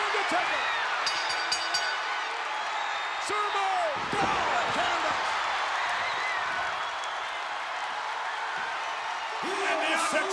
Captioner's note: applause